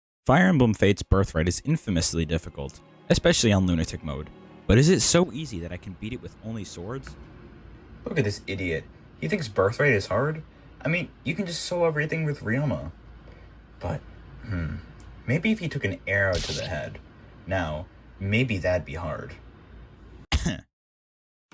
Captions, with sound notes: “Fire Emblem Fates Birthright is infamously difficult, especially on Lunatic mode." "But is it so easy that I can beat it with only swords?” Look at this idiot, he thinks Birthright is hard? I mean you can just solo everything with Ryoma. But... Hmmm... Maybe if he took an arrow to the head, now maybe that’d be hard. *cough*